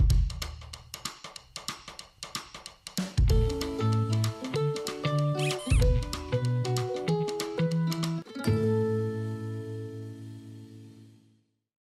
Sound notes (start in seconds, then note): 0.1 upbeat cheerful music; 5.4 squeaking; 6.4 upbeat cheerful music